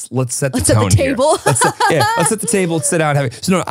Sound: laughs

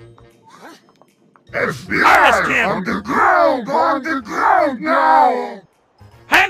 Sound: Heavy TF2 Voice

